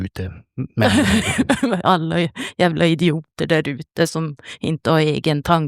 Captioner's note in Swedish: skratt